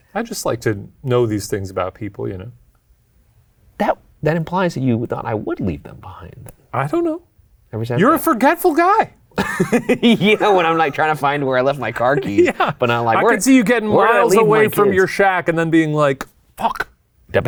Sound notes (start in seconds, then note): 9.4 laughs